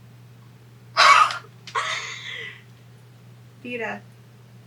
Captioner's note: laughs